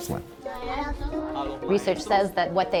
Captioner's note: teacher and students speaking Spanish